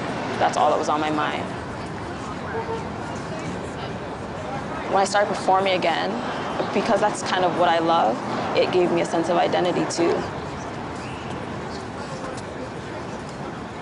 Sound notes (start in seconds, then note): 4.5 indistinct chatter; 13.6 indistinct chatter